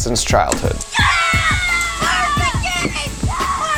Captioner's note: people cheering